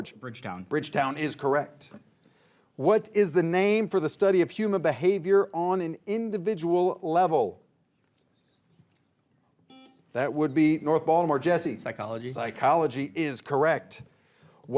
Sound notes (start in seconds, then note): 9.7 buzzer beeps